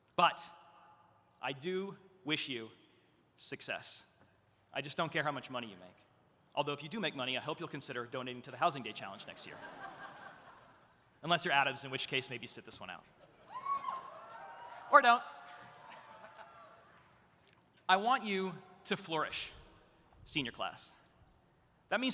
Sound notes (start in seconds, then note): 9.3 audience laughs; 13.4 audience cheering